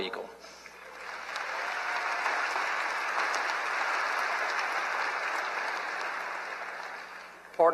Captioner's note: applause